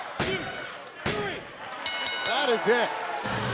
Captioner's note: bell ringing